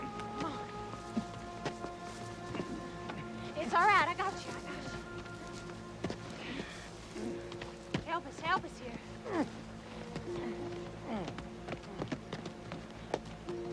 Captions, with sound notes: - It's all right. I got you, I got you. Help us, help us here. (Cole grunting)